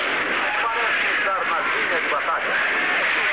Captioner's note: shouting